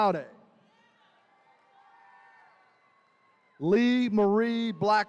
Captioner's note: attendees cheering